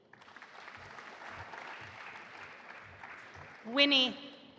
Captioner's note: audience applauding